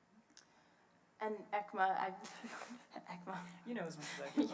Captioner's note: laughs